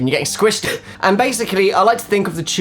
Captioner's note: gasping